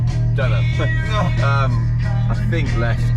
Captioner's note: chuckles